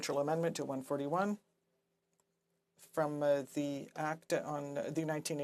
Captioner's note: speaking French